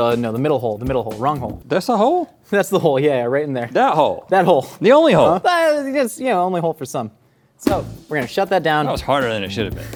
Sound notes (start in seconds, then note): 6.4 stammers